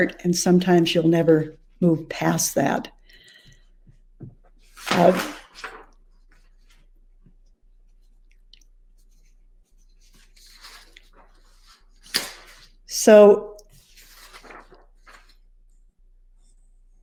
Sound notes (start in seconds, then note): 4.7 papers clattering